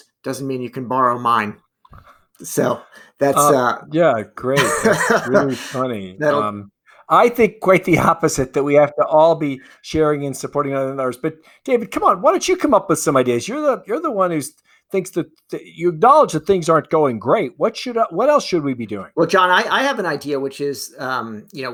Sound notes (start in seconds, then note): 4.4 laughing